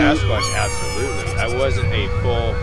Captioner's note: aliens squealing